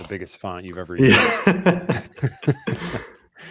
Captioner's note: laughs